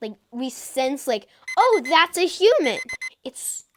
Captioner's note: alarm beeps